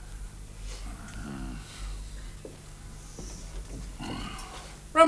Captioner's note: thoughtful muttering